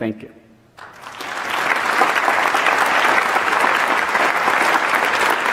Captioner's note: audience applauding